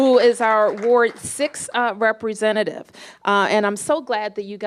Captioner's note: applause